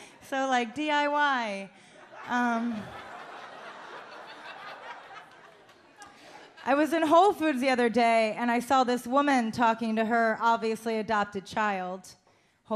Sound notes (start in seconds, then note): 2.0 audience laughs